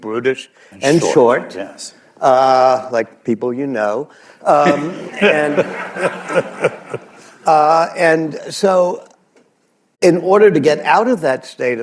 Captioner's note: laughter